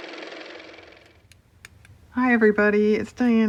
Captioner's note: car motor